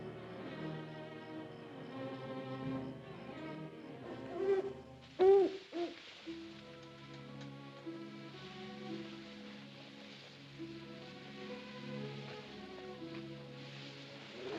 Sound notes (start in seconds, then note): 0.0 ominous music; 5.0 owl hoots; 7.1 grass rustling; 7.1 ominous music; 14.3 wolf howls